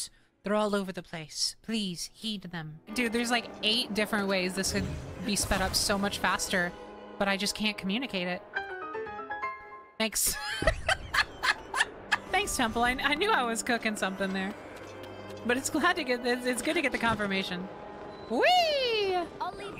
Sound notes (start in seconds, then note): 8.5 puzzle Complete Jingle; 10.2 laughter